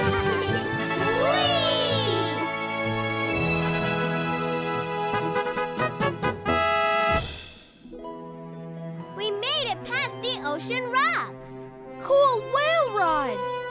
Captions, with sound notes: [cheering] [animal band playing] We made it past the Ocean Rocks. Cool whale ride.